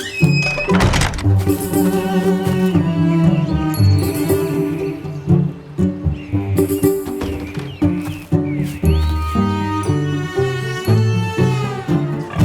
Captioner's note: door creaks shut; birds; pigs grunting